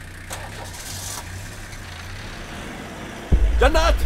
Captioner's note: Door closes; Engine starts